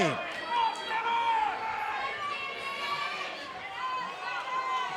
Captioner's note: crowd shouting